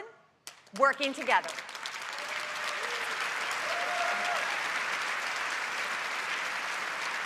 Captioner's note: applause